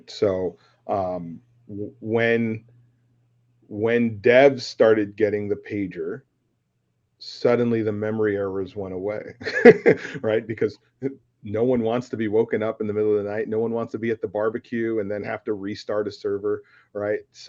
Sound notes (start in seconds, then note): 9.3 laughs